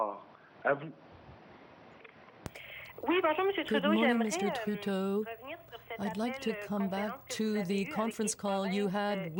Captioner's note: speaking french